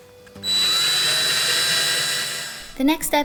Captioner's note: power drill whirring